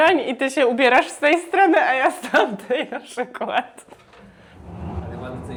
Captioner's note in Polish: śmiech